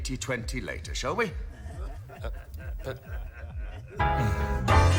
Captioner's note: laughter